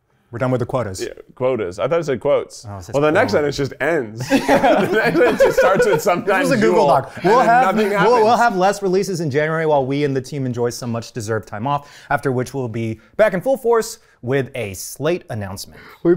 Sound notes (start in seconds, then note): 4.2 laughing